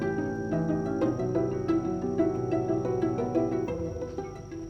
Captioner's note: none